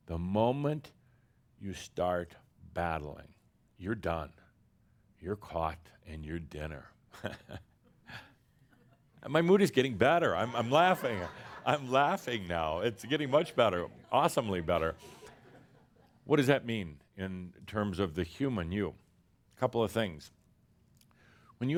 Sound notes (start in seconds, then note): 10.4 some laughter